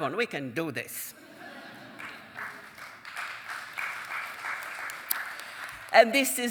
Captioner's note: audience chuckling and applauding